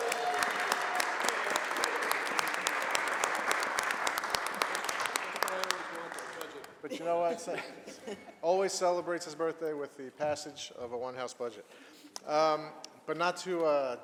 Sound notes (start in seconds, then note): 1.2 applause